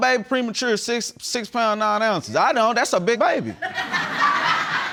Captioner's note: audience laughs